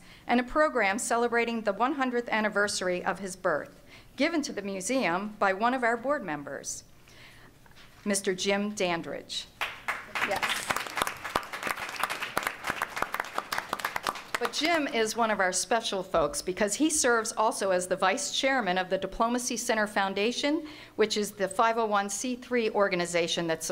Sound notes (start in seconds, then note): 9.6 applause